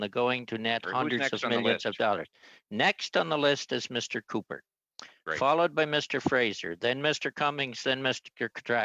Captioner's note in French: voix de l'interprète